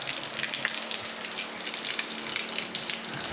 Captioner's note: water running